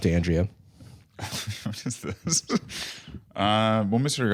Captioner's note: laughing